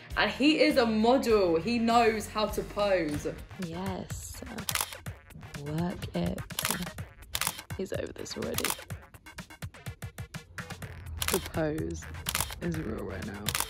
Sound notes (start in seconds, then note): 4.9 funky electronic music; 7.2 camera shutter clicks